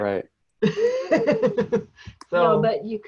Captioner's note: lady laughs